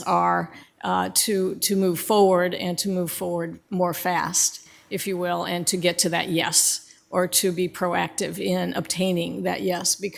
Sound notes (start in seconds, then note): none